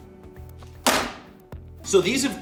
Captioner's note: pan slamming